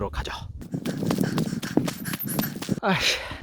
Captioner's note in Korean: 신나는 발걸음